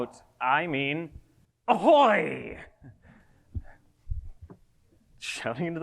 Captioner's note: chuckles